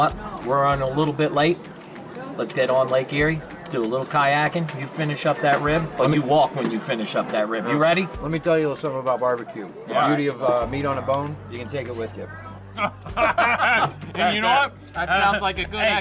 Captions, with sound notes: we're runnin' a little bit late, let's get on lake Erie, do a little kayakin'. You finish up that rib, and you walk when you finish up that rib, you ready? - Let me tell you a little somethin' about barbecue. The beauty of meat on a bone? You can take it with you. (laughing) - You know what? That sounds like a good exit cue,